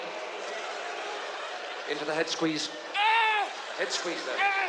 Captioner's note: yelling